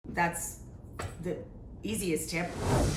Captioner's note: air whooshing